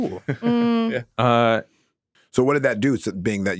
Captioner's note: chuckling